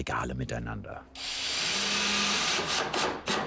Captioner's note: screwdriver noises